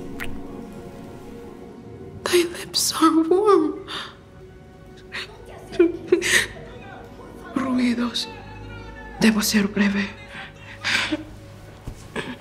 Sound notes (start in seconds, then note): 0.1 kiss; 5.2 approaching voices